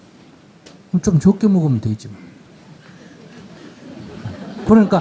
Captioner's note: audience Laughter